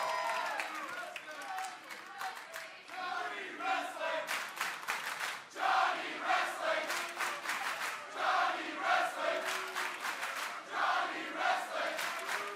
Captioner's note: crowd cheering